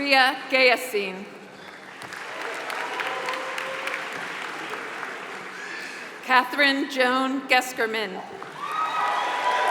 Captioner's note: applause; applause